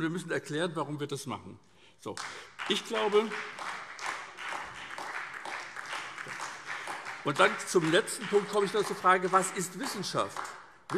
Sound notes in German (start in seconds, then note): 2.1 Beifall SPD